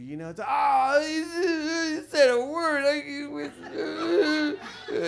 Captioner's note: sobs